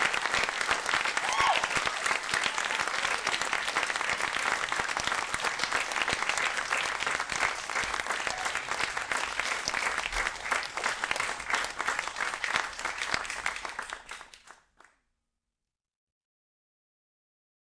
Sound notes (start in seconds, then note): 2.5 audience exuberantly cheering